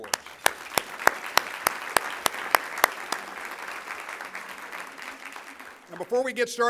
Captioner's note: applause